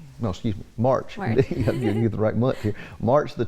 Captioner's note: chuckles